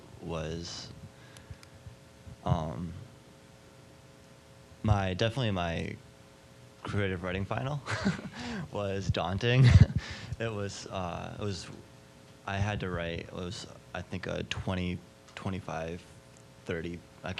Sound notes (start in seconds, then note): 7.8 laughing